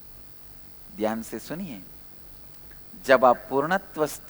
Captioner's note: hindi